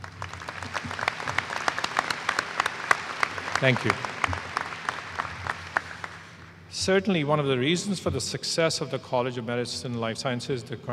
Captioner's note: applause